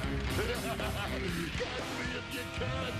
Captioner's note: laughs